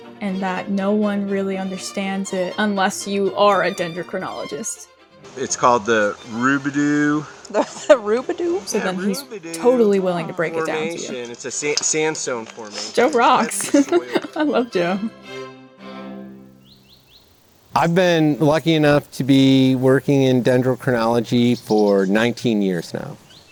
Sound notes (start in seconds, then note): 7.2 off-screen laughter; 12.7 laughs